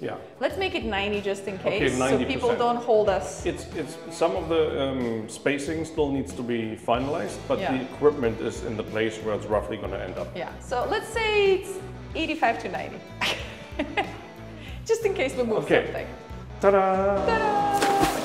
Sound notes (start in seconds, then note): 13.2 laughs